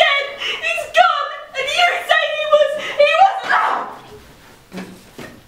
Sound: screams

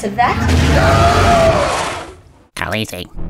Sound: screams

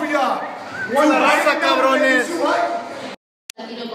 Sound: non-english speech

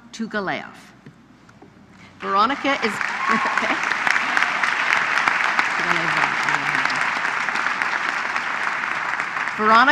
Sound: applause

